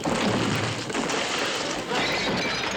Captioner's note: crashing